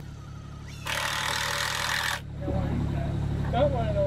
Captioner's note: screw gun spinning